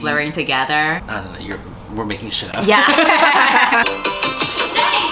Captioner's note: laughs